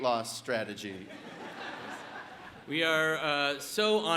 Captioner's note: audience laughs